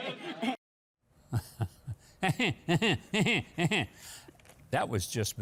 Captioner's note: Mike mocks Nancy laughing; Nancy laughs